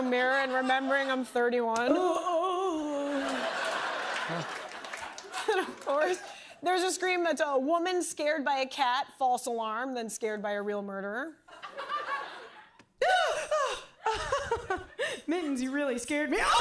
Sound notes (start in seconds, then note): 1.9 woman groans and moans; 2.8 laughter; 16.4 woman screams wildly